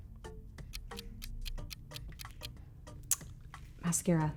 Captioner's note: timer ticking